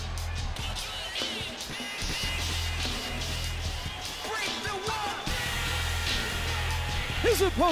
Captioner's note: crowd cheering